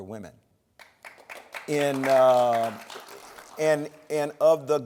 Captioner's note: applause